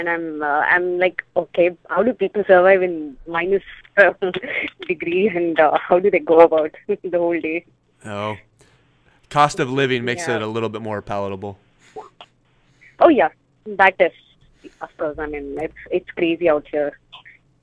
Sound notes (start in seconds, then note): 4.0 laughs